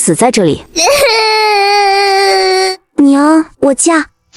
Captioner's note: sobbing